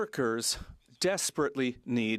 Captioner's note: speaking French